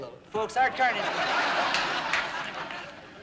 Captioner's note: laughter